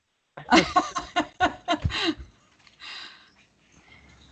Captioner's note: laughs